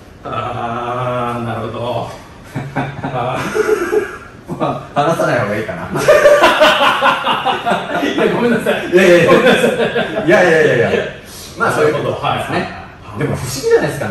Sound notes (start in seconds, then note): 5.9 laughs